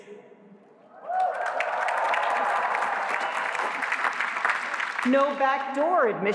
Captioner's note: applause